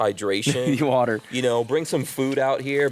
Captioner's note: laughs